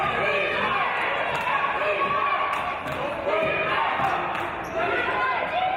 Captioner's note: audience chanting "Defense!"